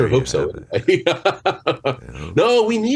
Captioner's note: chuckles